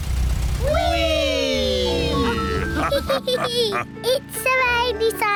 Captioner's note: all laugh